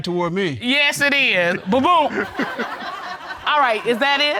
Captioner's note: all laughing